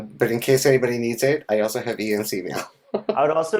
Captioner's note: laughs